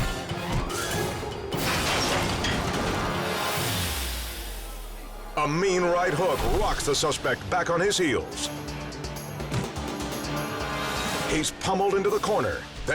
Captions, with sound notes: (objects thuds) A mean right hook rocks the suspect back on his heels. He's pummeled into the corner,